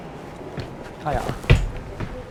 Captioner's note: thump- Sound of head hitting